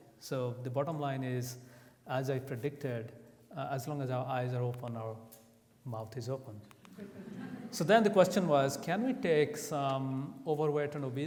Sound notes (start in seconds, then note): 6.9 audience laughs